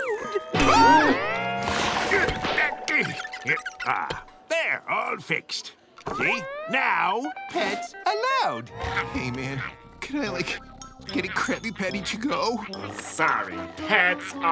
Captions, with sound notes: [gasps] [grunting] There, all fixed. Hey, now, pets allowed. Hey man, can I like get a Krabby Patty to go? Sorry, pets only.